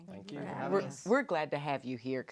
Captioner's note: grateful murmurs